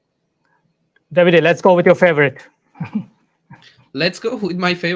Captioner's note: chuckles